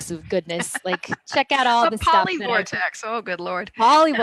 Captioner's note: laughs